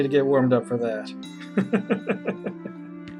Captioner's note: laughs